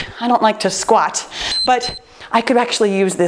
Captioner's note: timer beeps